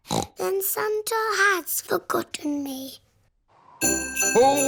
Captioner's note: snorts